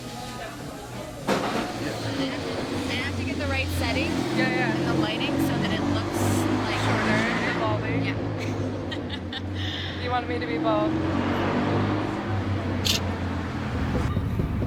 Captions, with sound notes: Hold on, I have to... I have to get the right settings. - Yeah, yeah. And the lighting so that it looks shorter. - Yeah, baldy... Yeah. (Laughter) - You want me to be bald. (Camera click)